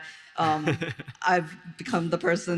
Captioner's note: all laugh